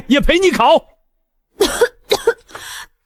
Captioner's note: cough cough